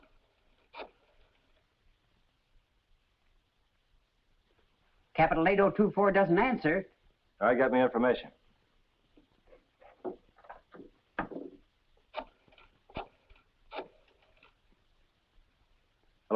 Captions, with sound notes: - Capital-8024 doesn't answer. - Get me information. (rotary phone dialing) Hello, information?